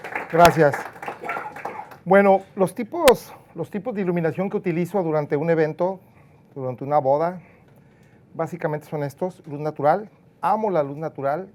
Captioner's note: clapping